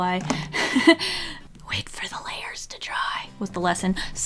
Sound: whispers: ''wait for the layers to dry

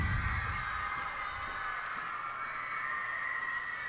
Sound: cheers and applause

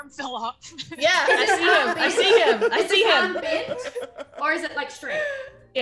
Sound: laugh

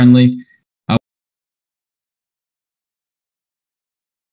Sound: missing audio

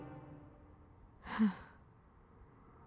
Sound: sighs

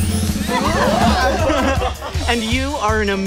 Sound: giggles

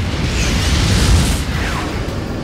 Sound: fire

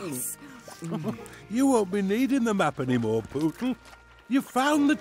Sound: Groobie chuckles; chuckles

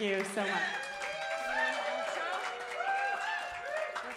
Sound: cheers and applause

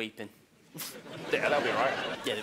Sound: laughing

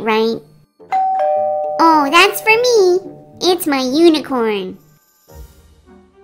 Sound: door bell rings

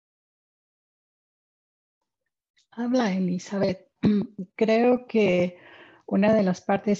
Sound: speaking in spanish

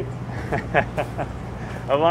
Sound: chuckling

